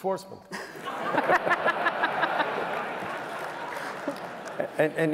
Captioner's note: laughter